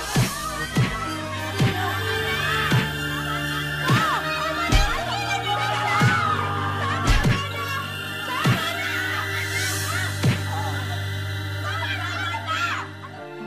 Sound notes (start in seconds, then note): 5.7 Erpak screaming